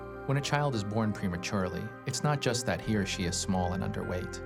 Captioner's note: none